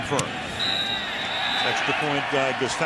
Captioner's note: whistle blows